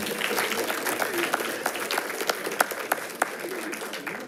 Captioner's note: attendees applauding